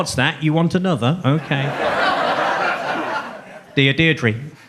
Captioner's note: audience laughs